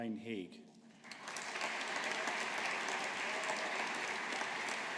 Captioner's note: audience applauding